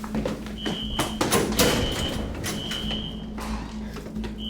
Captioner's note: alarm screeching